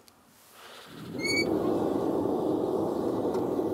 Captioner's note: squeaking